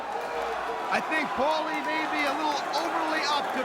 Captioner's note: crowd chanting